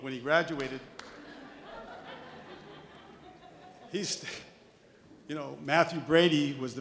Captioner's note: light audience laughter